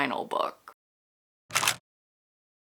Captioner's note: camera shutter